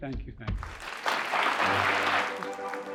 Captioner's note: audience applauding